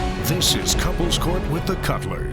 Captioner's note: none